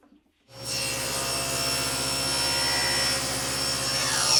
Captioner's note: driller whirring